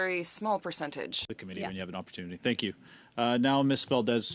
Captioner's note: speaking French